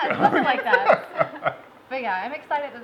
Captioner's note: laughing